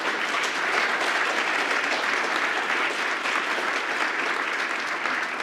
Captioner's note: applause